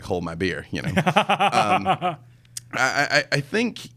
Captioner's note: laughs